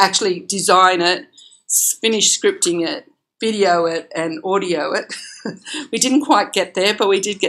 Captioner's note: laughs